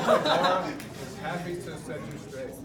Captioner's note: laughs